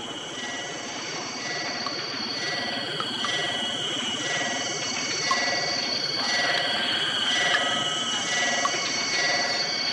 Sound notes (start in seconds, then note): 1.6 machine whirring